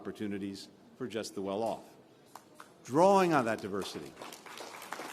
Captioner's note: applause